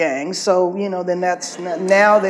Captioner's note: audience laughs